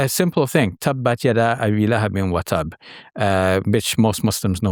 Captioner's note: speaking in a foreign language